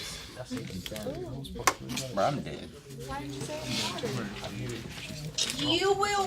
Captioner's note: students murmur